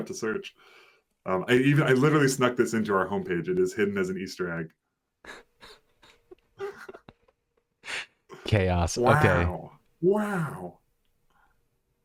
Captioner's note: laughter